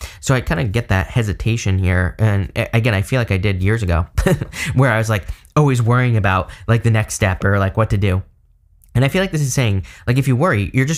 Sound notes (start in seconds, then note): 4.2 chuckles